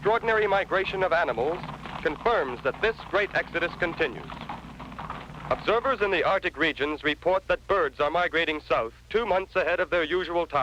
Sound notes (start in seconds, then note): none